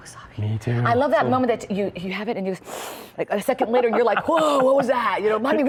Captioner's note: sniffs